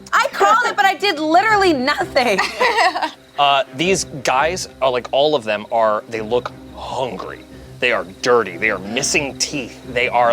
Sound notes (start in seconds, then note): 2.0 laughs